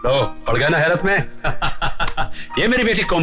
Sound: laughing

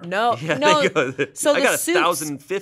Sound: laughs

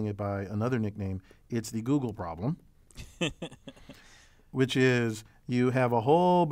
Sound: laugh

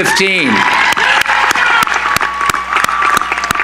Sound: cheering

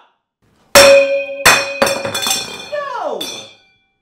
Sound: pots clanging

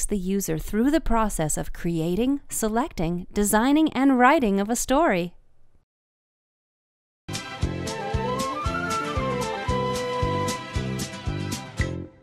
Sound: software sounds/music

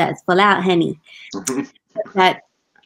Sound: chuckling

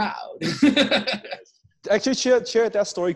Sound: laughing

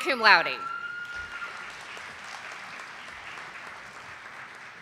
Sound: audience applauding

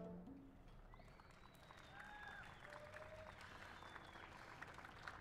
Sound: cheers and applause

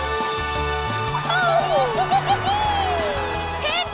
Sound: laughing

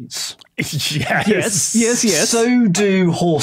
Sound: snickers

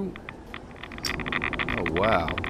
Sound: geiger counter ticks

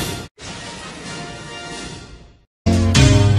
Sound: electricity zapping as rousing fanfare plays

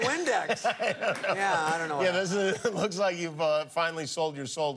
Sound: laughter

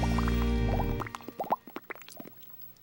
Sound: imitating water bubbling

